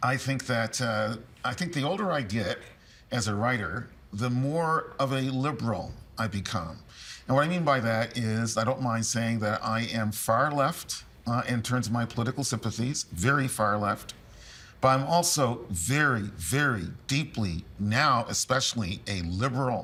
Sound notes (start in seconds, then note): none